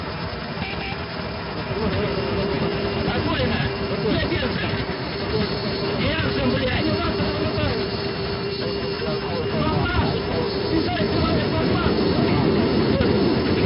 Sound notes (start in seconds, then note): 0.4 altimeter Setting Sound; 2.5 angle Of Attack Warning Sound